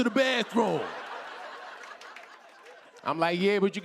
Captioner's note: laughter